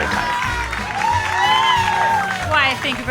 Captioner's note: audience clapping